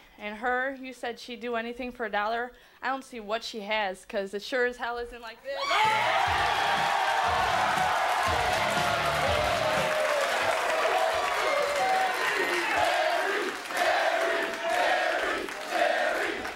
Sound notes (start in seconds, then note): 5.8 audience cheering